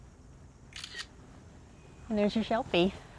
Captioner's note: camera clicking